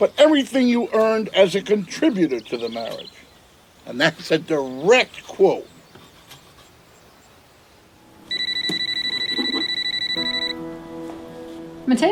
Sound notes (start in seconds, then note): 8.1 mobile phone ringing; 10.9 gentle music